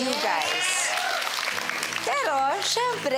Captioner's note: applause